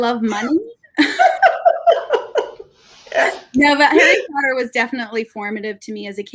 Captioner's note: laughing